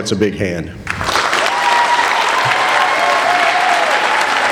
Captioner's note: cheering